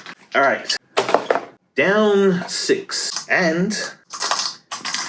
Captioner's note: none